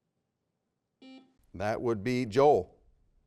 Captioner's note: buzzer beeping